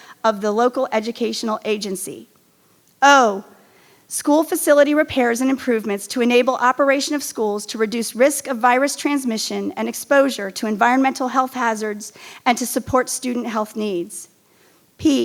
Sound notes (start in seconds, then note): none